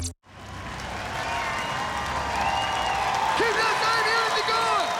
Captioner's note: cheering, applause